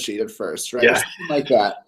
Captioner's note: laugh